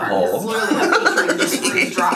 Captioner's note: laughs